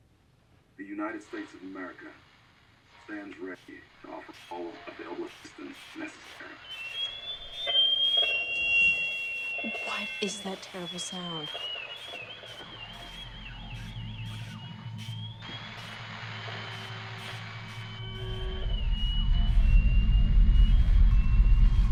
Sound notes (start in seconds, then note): 6.8 alarm; 11.8 whistle; 14.3 fire smoke alarm; 17.9 whistle